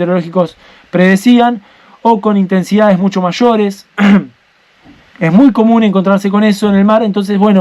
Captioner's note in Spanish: carraspeo